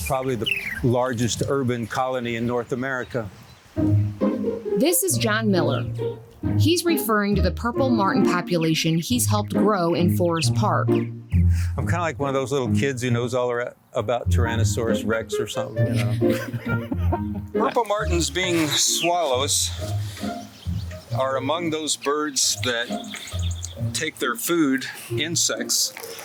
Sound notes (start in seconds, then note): 3.7 light whimsical music; 15.6 laughing